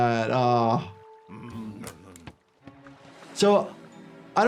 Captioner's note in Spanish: gruñidos abultados